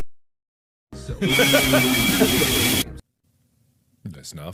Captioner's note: massive earrape E while 5th reaction Mark laughs